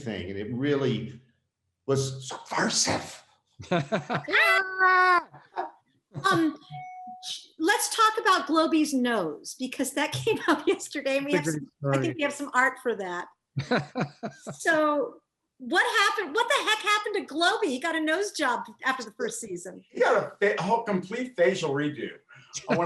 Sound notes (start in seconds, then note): 3.6 laughing; 11.2 laughs; 13.6 laughing